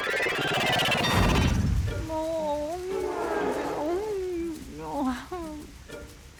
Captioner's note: mumbling